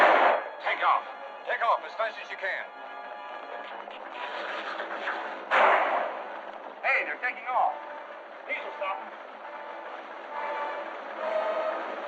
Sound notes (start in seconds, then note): 0.0 gunshots; 5.4 gunshot